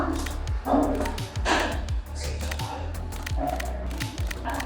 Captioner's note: camera clicking